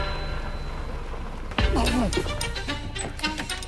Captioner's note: grunting